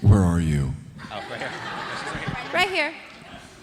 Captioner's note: audience laughing